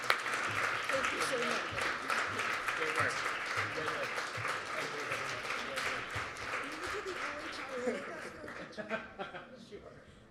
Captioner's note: applause